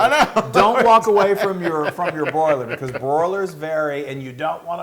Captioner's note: laugh